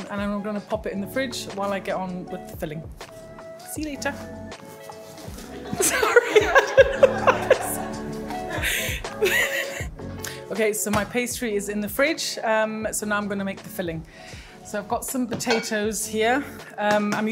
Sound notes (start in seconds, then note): 5.4 group laughing